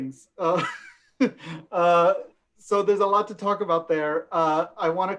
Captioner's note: laughs